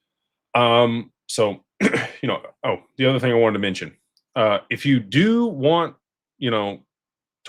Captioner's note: clears throat